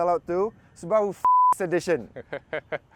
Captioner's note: beep